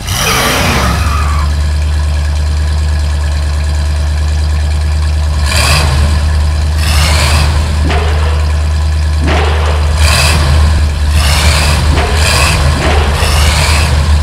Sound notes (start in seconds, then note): 0.0 engine revs; 5.5 engine revs; 8.0 slam; 10.1 engine revs; 11.9 slam; 13.3 engine revs